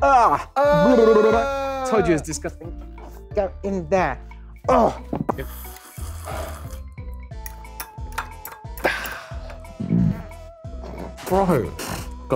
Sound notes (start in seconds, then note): 5.4 slurping; 9.8 belches